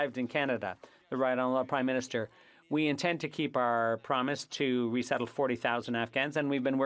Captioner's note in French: voix de l'interprète